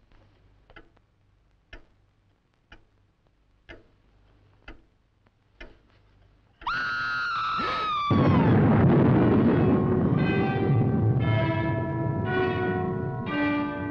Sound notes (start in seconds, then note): 6.6 Pat screaming; 7.9 Dick gasping; 8.0 dramatic music